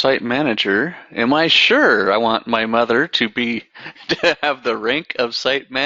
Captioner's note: laughs